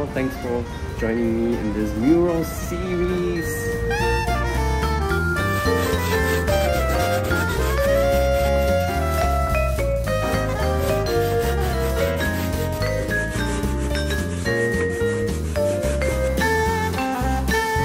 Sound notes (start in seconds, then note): 3.9 jazzy Beats; 6.4 sand paper scratching sounds